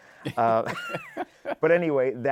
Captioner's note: laughs